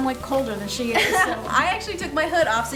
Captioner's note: laughing